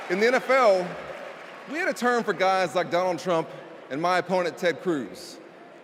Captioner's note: cheers and applause